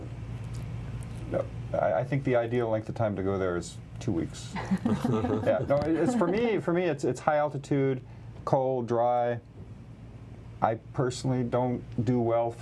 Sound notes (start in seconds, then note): 4.5 laughter